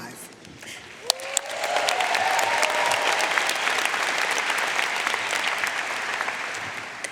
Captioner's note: audience applauding; audience cheering